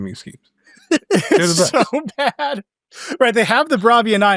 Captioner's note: laughs